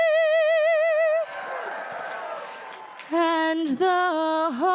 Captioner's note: audience cheering; audience applauding